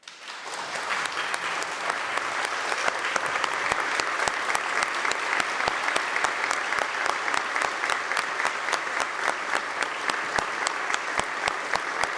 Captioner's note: applause